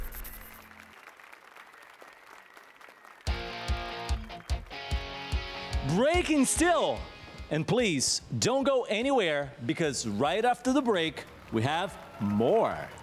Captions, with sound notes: [APPLAUSE AND CHEERS] Breaking Still. And please don't go anywhere. Because right after the break, we have more.